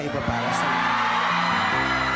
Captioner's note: crowd screaming / laughing